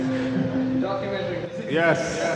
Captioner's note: hahhaha